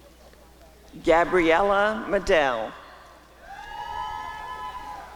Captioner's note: applause and cheering